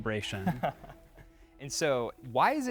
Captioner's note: chuckling